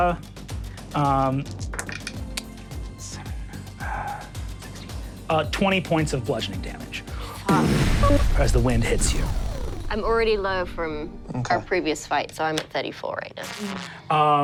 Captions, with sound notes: 20 points of bludgeoning damage. (whooshing) As the wind hits you. - I'm already low from- - Okay. - Our previous fights, so I'm at 34 right now.